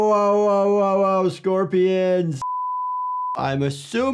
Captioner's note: beep